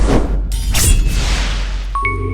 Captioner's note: sword Slash sound; intro Jingle